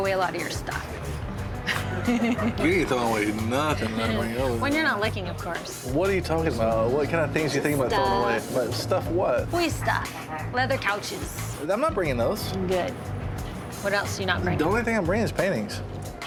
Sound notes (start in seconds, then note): 1.6 laughing